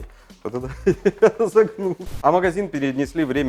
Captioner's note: laught